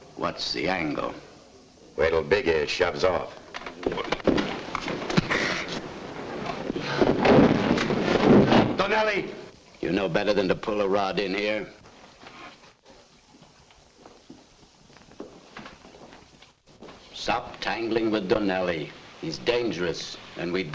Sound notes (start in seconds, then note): 3.6 men scuffling; 7.5 table crashes